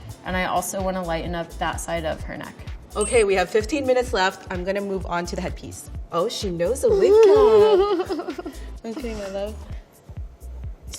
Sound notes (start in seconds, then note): 3.0 countdown sound